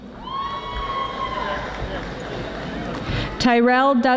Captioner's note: audience yelling